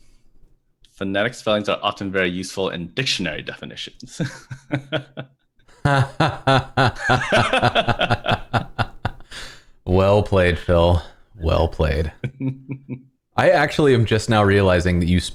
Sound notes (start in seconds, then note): 5.6 laughter